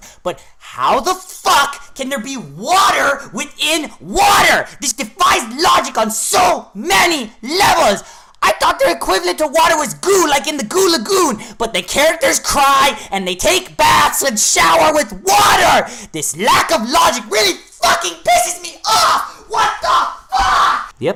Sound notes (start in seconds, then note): none